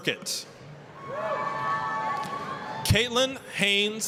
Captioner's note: applause, cheering